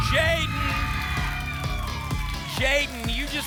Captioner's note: applause and cheering